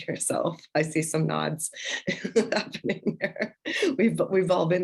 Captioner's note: laughter